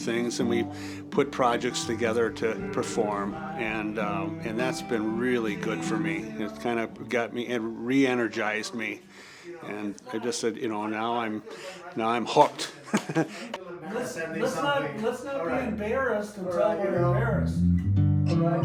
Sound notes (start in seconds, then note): 12.7 participant laughs; 18.4 bright music